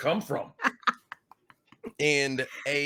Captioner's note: laughing